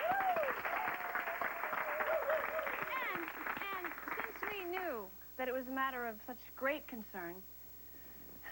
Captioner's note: applause and cheers